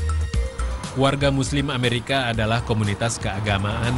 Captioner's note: non-english speech